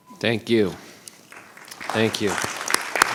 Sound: clapping

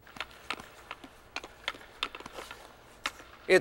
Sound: stick hits ice

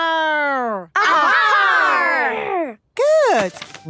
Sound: all shouting

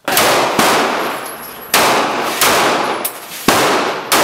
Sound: guns firing

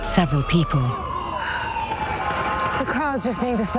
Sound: sirens wailing

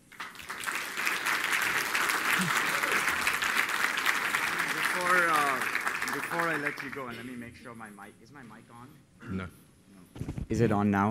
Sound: applause

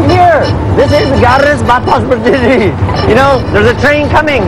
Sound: speaking indonesian

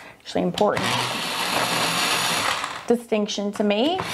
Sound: sharpener whirs

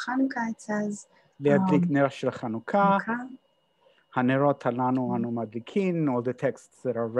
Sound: speaking hebrew

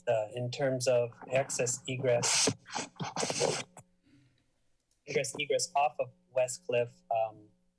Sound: sneeze

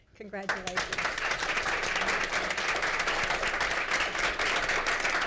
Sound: congregation applauds

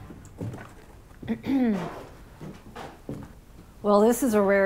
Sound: clears throat

